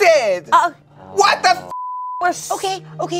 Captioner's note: beep